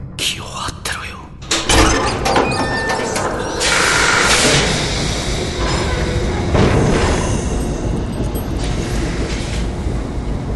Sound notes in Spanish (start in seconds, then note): 3.5 sonido de vapor; 6.3 sonidos de maquinaria